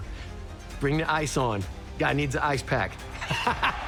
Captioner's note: laughing